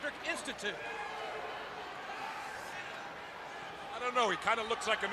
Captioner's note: crowd chatter